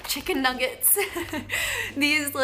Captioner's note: laughing